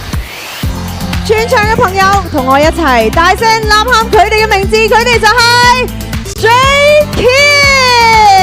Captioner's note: shout